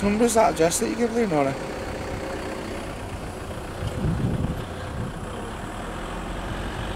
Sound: traffic noise

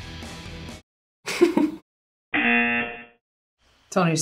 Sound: laughs; buzzer rings

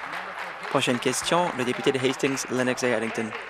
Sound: applause

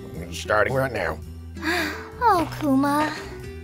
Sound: sighing

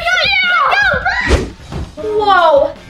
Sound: kids yelling

